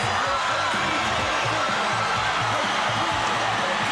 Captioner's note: audience cheering